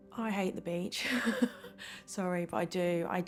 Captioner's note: chuckles